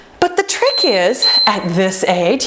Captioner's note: timer beeping